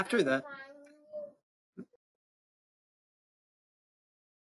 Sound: toddler babbling

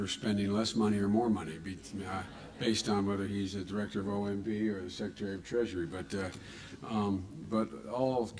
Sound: laughter

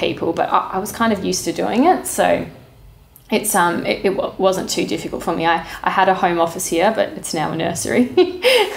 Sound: laughing

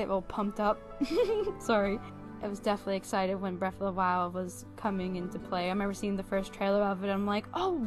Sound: giggles

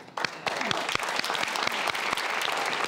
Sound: audience Claps

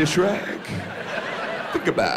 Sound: audience laughs

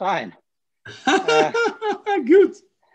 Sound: laughing

